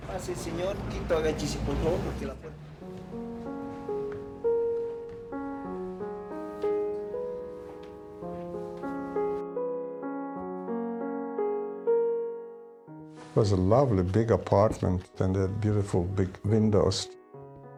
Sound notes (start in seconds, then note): 0.9 speaking in foreign language; 4.6 gentle music